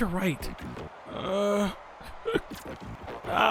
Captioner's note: hiccups